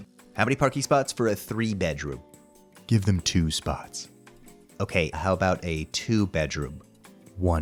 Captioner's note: none